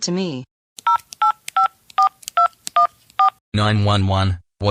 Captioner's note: cell phone dial